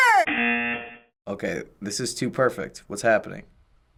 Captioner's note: buzzer